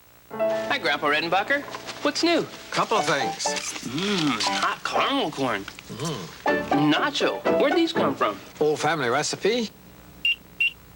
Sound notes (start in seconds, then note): 3.6 Gary, crunching on popcorn; 10.6 microwave beeps twice